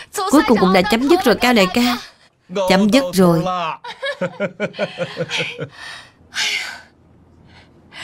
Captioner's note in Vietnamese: Tiếng cười